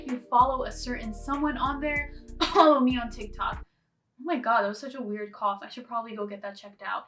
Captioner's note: cough